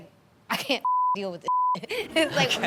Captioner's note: beep